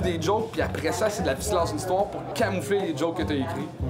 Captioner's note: none